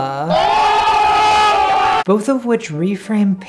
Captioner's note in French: Clameur